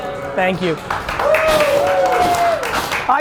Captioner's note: applause